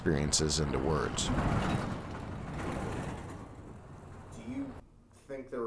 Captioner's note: truck rattling